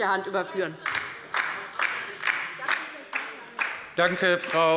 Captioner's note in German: Beifall bei der LINKEN